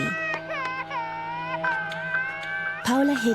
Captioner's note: baby cries